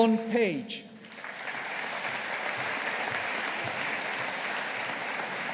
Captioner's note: audience applauding